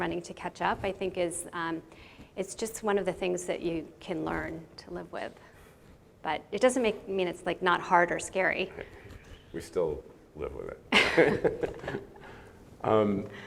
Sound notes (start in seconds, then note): 11.0 laughs